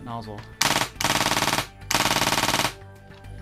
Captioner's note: fast gun clicking